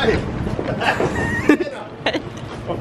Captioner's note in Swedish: skratt